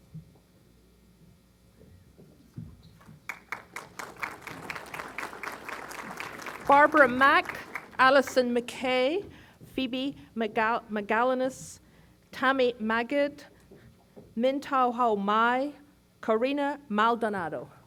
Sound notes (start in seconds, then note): 3.2 applause